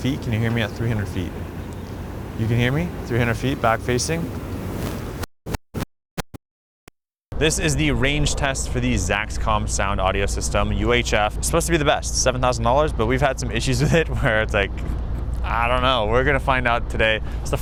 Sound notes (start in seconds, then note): 3.6 audio crackles